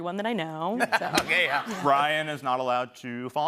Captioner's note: laughs